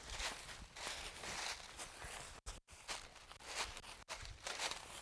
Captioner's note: leaves crunching